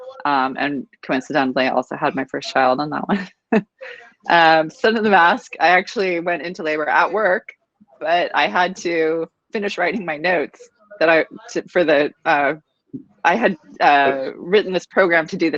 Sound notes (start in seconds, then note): 4.1 laughing